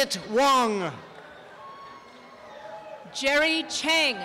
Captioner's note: applause and cheering